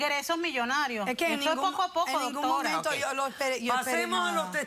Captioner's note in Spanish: Hablan al unísono